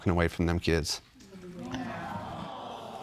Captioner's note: audience awe